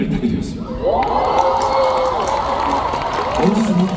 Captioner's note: audience cheers and applause